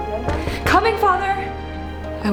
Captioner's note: knocks on door